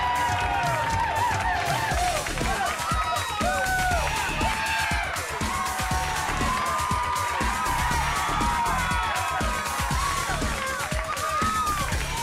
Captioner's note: crowd cheering